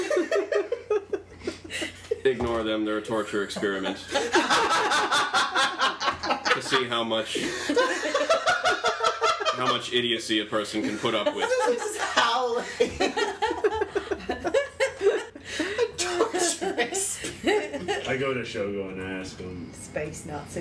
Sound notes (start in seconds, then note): 3.8 Zyzzix, Liliana, and Ping Pong laugh even louder